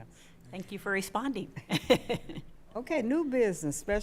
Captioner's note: chuckling